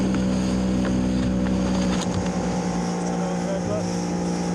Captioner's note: outboard droning